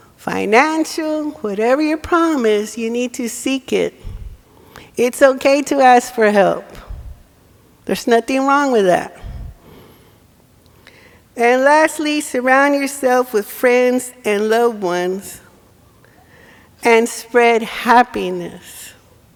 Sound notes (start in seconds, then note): none